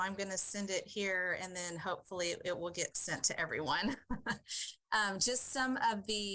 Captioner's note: chuckles